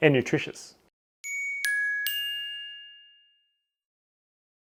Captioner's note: bell rings